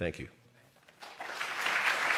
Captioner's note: applause